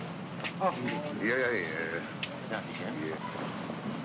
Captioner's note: man bids farewell in German